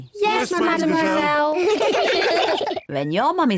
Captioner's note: all laugh